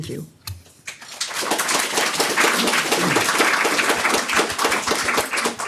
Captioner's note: audience applause